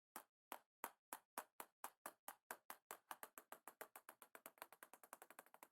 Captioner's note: table tennis ball rattling